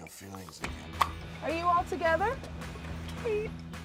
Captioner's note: pop